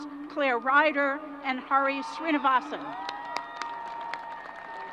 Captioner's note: crowd applause